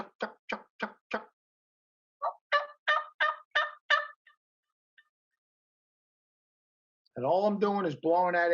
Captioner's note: turkey call sounds